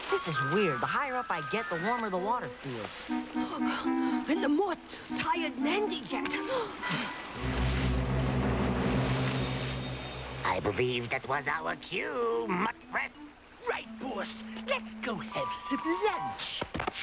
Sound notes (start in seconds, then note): 7.0 panting